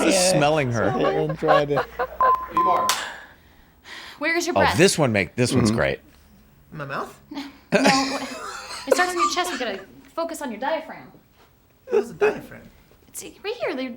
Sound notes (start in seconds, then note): 0.0 group laughs; 3.9 beeping; 10.1 group laughs